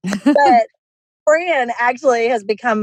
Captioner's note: laughs